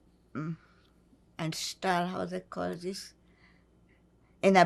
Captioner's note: german